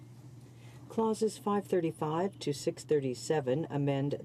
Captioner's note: speaking French